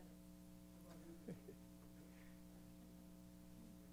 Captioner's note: laughter